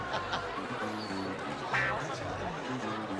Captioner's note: laughter